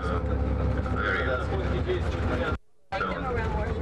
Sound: chatter

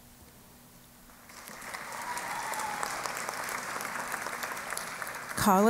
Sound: applause

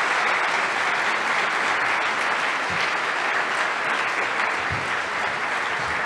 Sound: applause

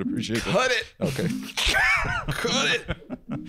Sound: laughs

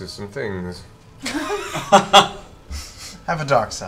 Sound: laughter

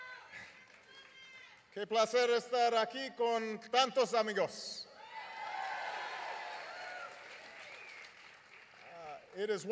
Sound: applause

